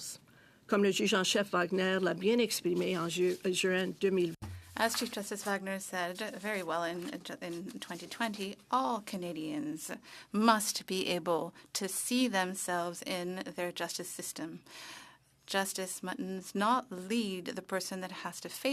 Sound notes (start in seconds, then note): 10.4 speaking French